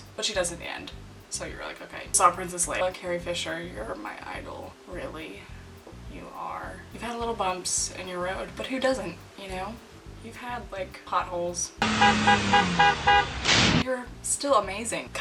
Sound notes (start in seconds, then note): 11.8 car horn beeping continually